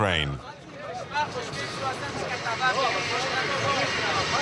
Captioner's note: French spoken audio